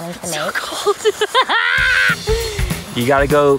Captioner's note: laughs